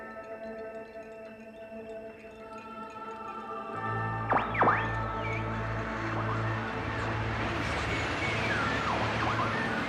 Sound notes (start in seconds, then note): 4.1 berkedip statis